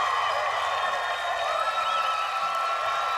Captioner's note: cheers and applause